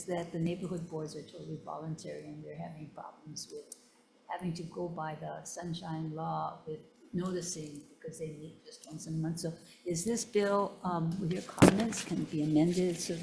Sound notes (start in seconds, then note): none